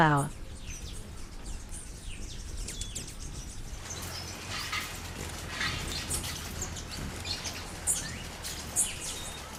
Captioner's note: birds chirping and singing